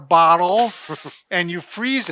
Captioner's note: puffing air